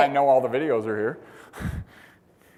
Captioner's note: laugh